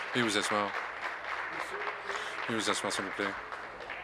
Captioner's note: applause